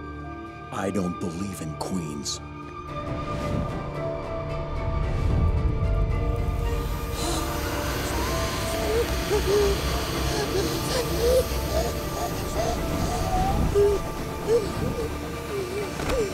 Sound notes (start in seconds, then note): 6.9 gasping